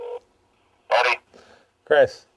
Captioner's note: phone call